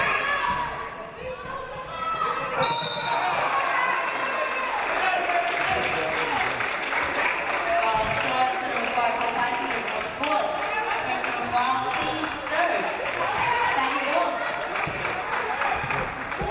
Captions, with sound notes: (referee blows whistle) (audience cheering) Foul Sharks, number five, Hope Heiselman. Her fourth, while teams third. Tiger's ball.